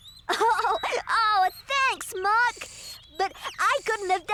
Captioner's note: giggling